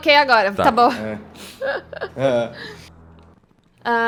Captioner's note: laughter